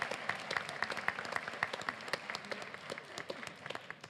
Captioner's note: applause